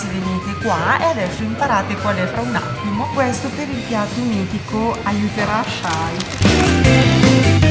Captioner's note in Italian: Applauso